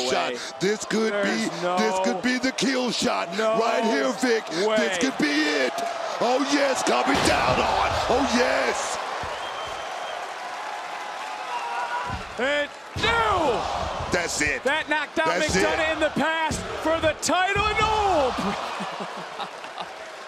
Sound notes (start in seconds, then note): 15.0 crowd cheers